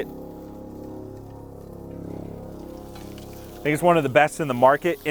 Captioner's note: plane droning